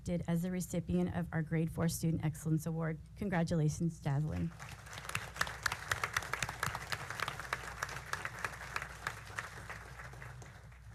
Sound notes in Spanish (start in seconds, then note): 4.0 aplausos